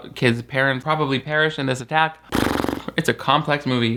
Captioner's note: sighs